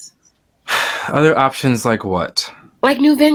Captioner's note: sighs